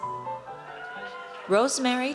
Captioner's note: audience cheers